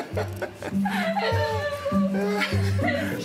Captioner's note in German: Sie stammelt